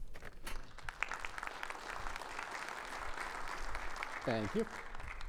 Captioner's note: audience applauding